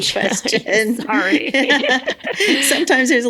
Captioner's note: both Laugh